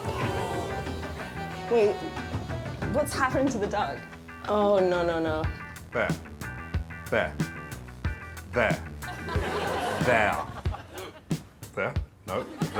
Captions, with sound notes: [audience groaning] Wait. What's happened to the duck? Oh, no, no, no. There. There. There. There.